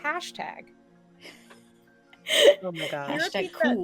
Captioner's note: laughing